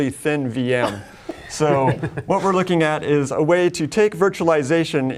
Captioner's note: laughs